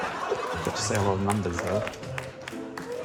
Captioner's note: laughs